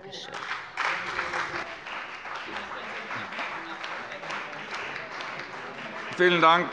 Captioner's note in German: Beifall bei dem BÜNDNIS 90/DIE GRÜNEN und der CDU